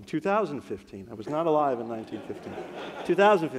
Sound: audience laughs

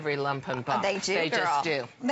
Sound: laughter

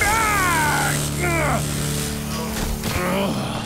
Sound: grunting

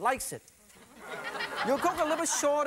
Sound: audience laughing

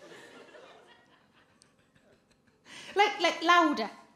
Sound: giggles

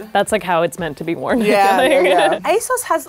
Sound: laughs

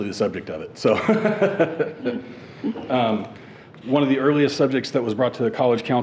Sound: chuckles

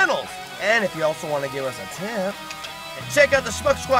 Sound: clicks tongue

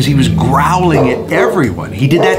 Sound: dog growls and barks

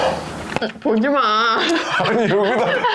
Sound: laughing

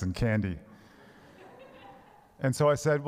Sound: congregation laughs

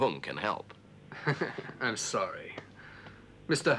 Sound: laughs

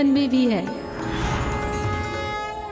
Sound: conch blows

